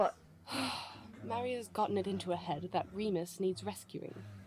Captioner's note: Lily lets out a heavy sigh